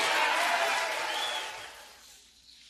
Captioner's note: applause